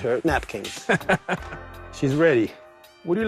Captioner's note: chuckles